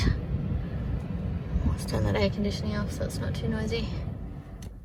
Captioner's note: air con makes air noise; air con noise turns off